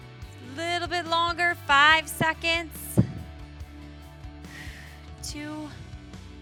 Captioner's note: exhales